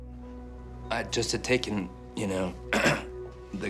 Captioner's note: limpa a garganta